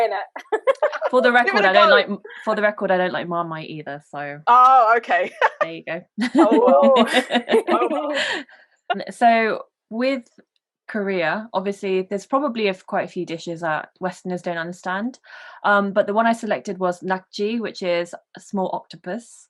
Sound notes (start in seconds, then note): 5.2 giggles